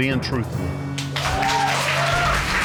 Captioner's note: audience exclaims